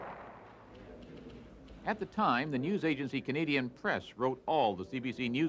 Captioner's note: explosions